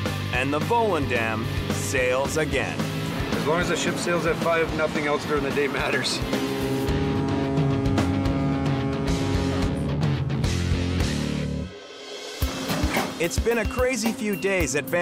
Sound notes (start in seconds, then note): 6.7 ship horn blaring; 12.4 cheerful upbeat music